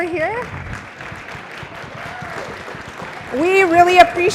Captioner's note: applause